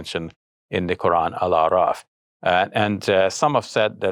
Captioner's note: speaking in foreign language